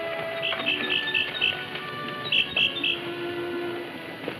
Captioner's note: birds chirping